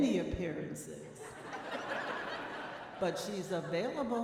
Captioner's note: audience laughing